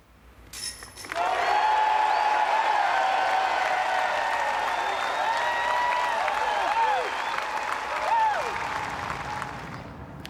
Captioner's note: crowd cheering; wind rustling